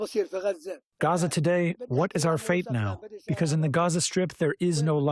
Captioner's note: through translator